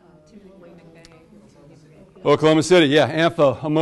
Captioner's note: class chatters